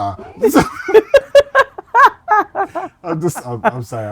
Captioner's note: laughing